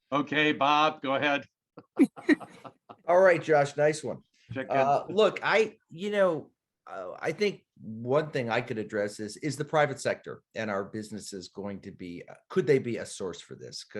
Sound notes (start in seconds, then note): 1.8 laughing